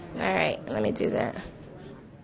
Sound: voiceover

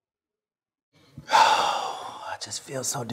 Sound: sigh

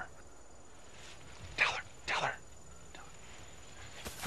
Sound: whispered

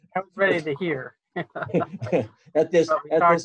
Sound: laughs

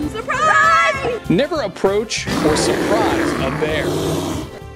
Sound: bear growls

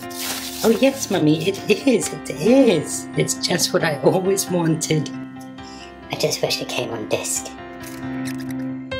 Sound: kid's voice

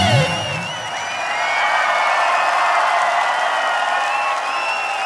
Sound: audience cheers

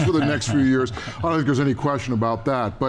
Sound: laughing

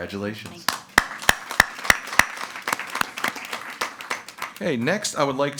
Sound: members applauding

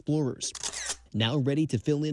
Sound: camera shutter sound

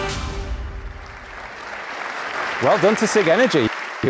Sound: audience applauding

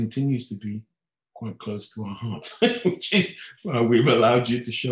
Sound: laughing

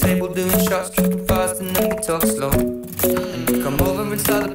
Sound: mmmm

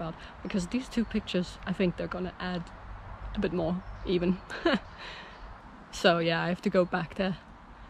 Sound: laughs

